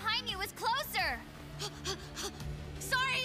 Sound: panting

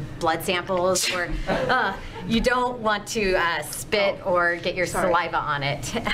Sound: sneezes

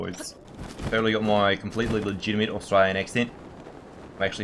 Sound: speaks in G'day

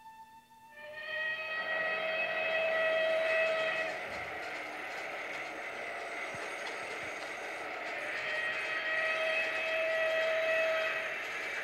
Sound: sound of machines

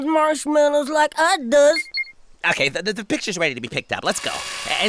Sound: electronic beep

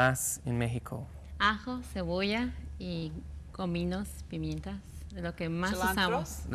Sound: speaks in Spanish

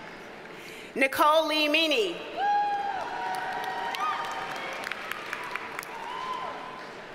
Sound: audience cheers and applauds

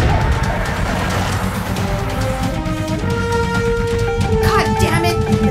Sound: engine sputtering; alarm sound

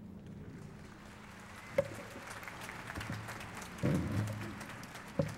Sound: applause

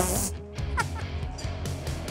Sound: laughing

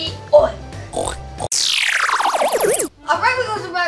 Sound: pig oinking

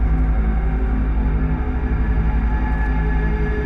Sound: none

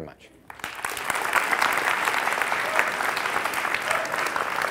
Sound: applause

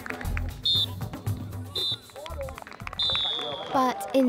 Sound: final whistle

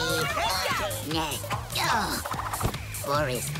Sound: grunting

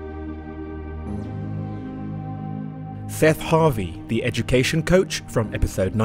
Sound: voiceover

